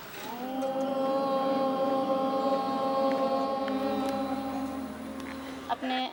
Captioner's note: students chanting "Om"